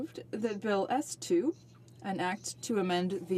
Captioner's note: speaking in french